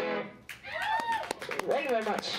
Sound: cheering and clapping

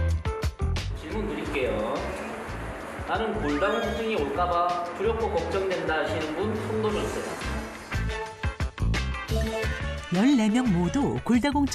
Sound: voiceover

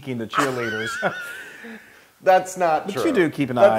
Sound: laugh

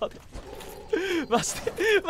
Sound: inhales

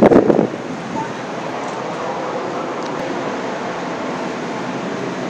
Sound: wind sounds comes out

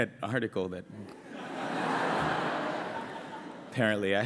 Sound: laughter

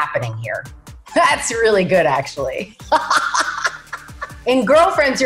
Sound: laughs

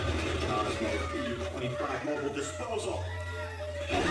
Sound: buzz

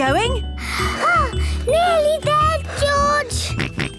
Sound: panting; snorts

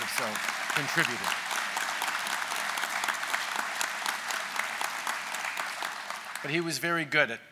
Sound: applause

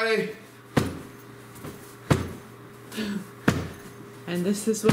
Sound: pillow slapping

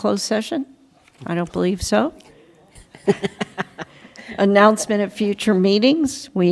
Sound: laughter

